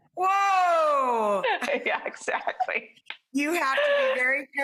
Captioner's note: laughs